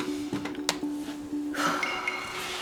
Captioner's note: sighs